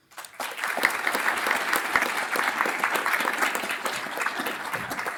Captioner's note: audience applauds